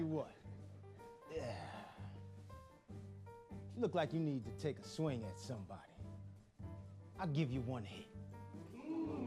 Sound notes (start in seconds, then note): 1.2 sighs